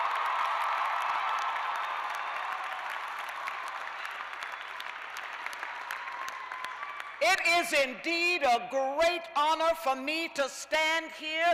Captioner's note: cheers and applause